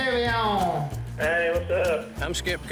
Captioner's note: on phone